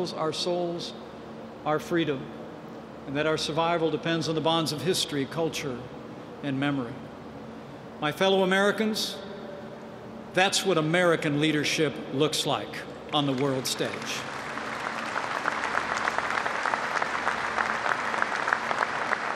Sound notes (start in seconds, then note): 13.2 applause